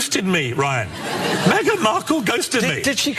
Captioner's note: laugh